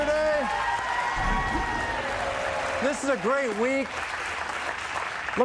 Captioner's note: cheers and applause